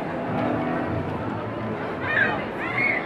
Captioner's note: street noise